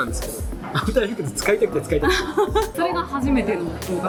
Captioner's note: laughs